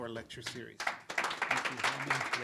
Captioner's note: audience applauds